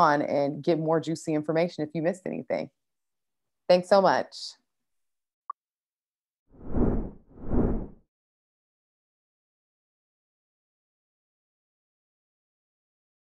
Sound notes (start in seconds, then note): 6.6 whooshing sound